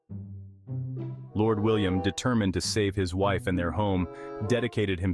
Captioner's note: voice-over